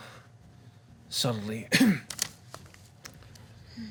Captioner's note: coughs